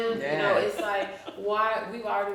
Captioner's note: chuckles